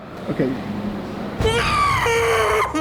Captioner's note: death Squeal